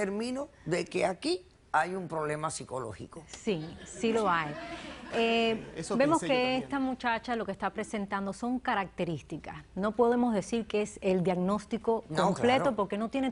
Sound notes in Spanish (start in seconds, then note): 3.8 Risas del público